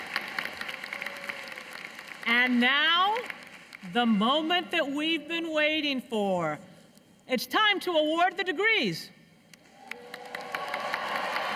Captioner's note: cheers and applause